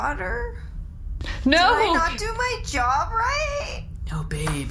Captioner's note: sobbing